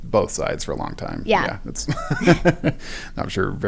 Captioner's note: laugh